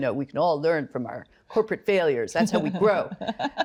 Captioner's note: laughs